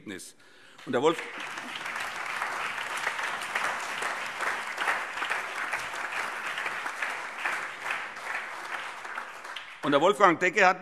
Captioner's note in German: Allgemeiner Beifall